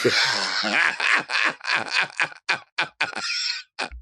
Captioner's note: Latrice laughing